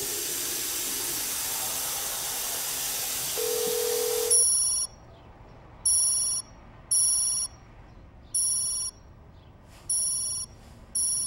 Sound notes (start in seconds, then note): 3.3 phone ringing